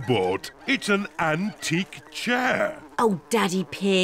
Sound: flies buzzing; oinks

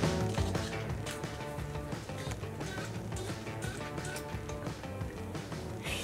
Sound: water sprayer spraying

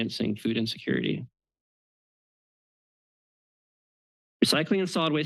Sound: pause

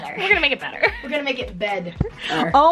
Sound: laughs

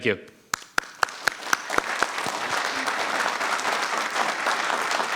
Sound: audience clapping

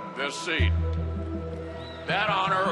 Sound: crowd cheers and applauds

